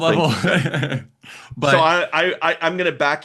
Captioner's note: both laughing